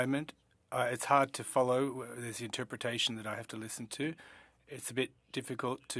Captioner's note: speaking French